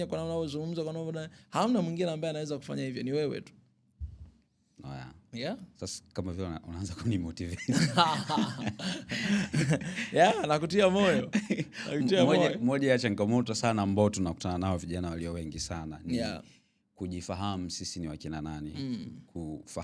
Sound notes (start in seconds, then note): 7.5 laughter